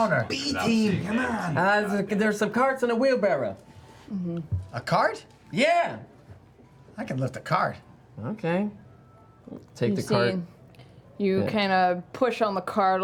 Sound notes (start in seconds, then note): none